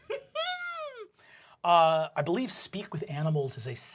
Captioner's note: laughs